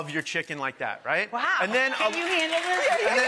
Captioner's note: audience cheers and applauds